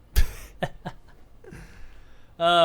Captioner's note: laughs